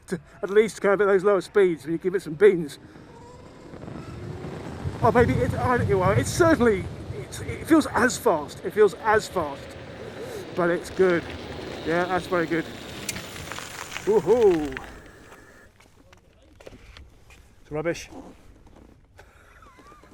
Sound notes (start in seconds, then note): 2.8 motor humming; 19.4 laughs